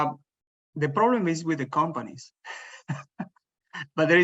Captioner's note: laughs